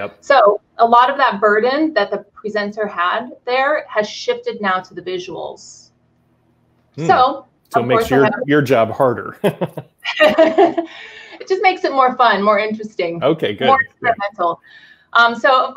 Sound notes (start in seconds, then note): 9.3 both laughing